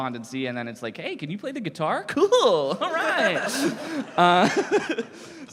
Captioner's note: laughter